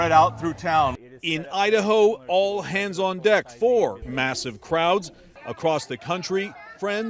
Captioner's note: voice-over